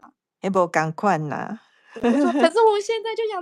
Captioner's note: Taiwanese